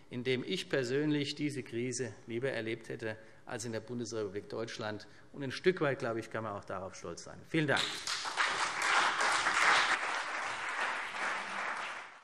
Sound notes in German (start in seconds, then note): 7.8 Beifall CDU und BÜNDNIS 90/DIE GRÜNEN